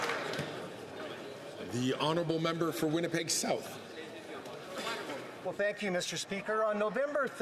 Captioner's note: some Applause